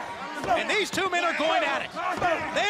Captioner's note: crowd chatter